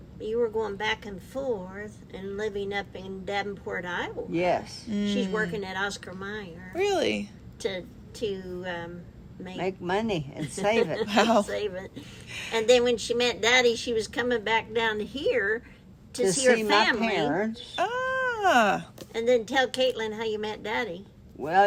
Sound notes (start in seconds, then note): 10.4 laughs